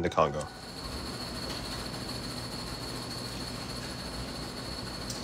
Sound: machine shaking

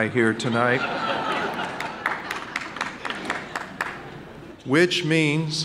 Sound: audience laughing and clapping

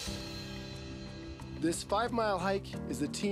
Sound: voiceover

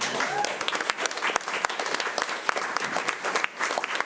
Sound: crowd clapping

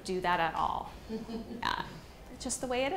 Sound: person chuckling

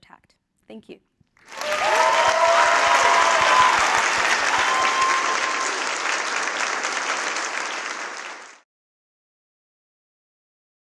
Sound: applause

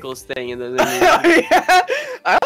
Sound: bursts out laughing

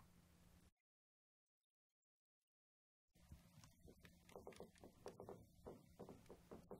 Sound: hull creaks ominously

